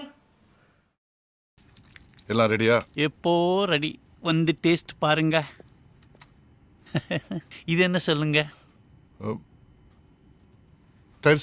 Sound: tamil comedy dialogue

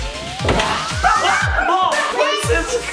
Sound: screams

